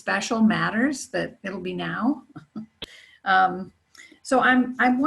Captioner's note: laughs